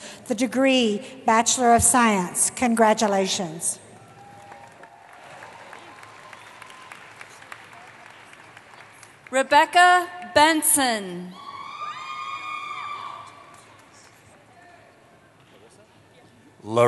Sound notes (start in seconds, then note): 4.0 applause; 11.3 cheering